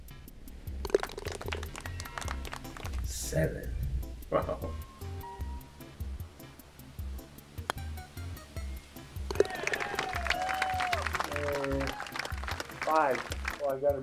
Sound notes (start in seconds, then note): 0.8 ball falls in cup, applause; 4.3 chuckles; 9.4 applause